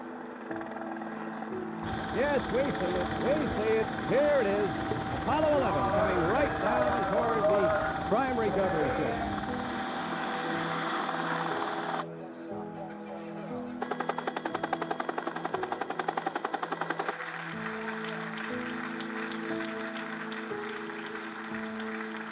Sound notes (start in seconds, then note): 10.2 helicopter blades whirring; 13.8 helicopter blades whirring; 16.2 applause